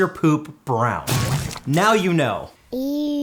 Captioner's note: poop squelching